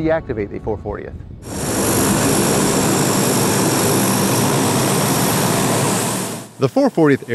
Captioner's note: propeller buzzing